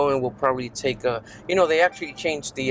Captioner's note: notification chiming